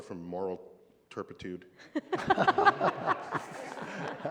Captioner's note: laughter